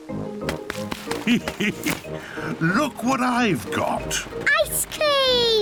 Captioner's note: laughs